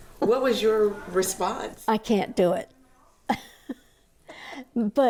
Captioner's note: laughs